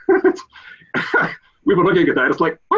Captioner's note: chuckles